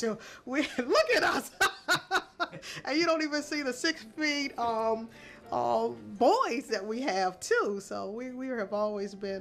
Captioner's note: laughter